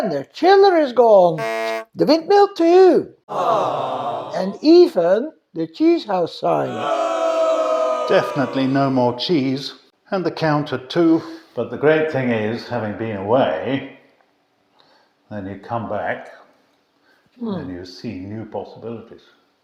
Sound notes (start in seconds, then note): 1.4 buzzer; 3.3 awww